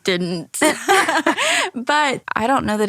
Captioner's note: laughs